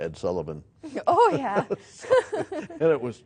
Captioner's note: laughing